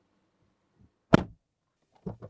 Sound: door Thud

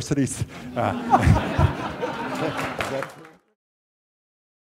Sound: laughs

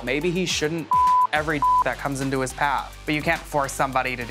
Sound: beep

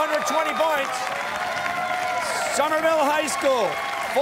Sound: cheers and applause

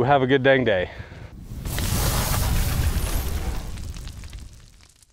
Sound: sizzling

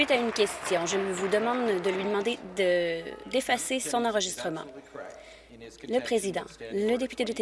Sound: applause

